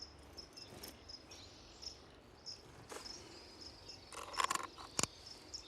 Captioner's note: birds chirping